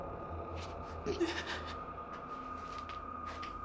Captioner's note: sobbing